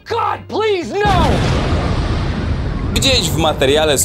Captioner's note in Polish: boom